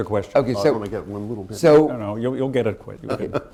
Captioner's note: laughs